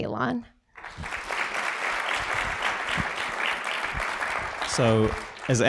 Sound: applause

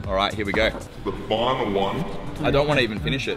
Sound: ominous Voiceover

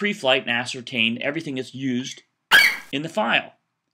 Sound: FlightCheck eagle screeches

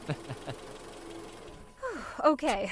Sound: chuckles

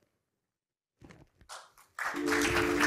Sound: applause

